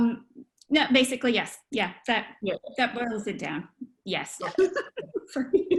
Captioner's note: laughter